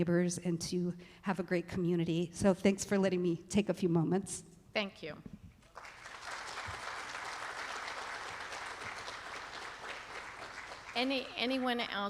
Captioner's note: applause